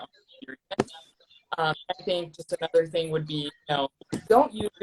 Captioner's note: distorting